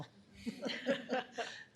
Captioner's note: everyone laughs